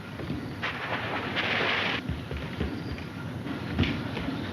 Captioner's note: water splashes